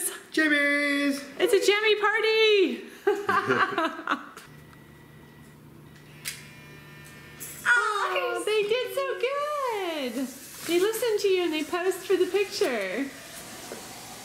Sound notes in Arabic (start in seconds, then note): 3.0 يضحك; 6.3 النقر الكاميرا